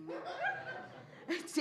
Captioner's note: laughter